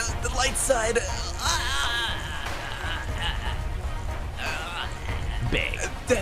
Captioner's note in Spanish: Sonidos de Heroe Sufriendo